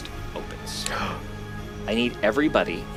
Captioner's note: gasps